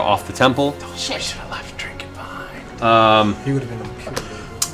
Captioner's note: whispering